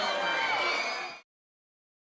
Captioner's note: audience cheers